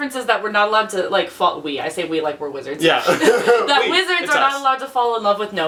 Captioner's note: laughs